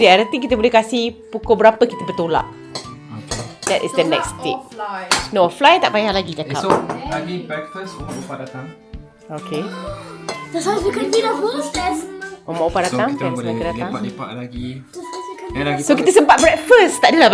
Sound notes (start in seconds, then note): 10.4 speaking German